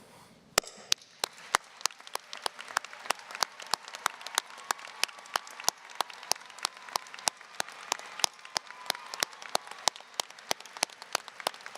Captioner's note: applause, cheering